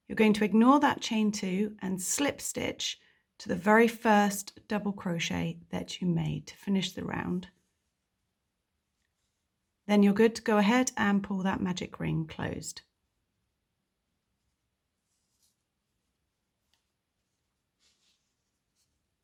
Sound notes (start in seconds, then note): 15.1 yarn stretching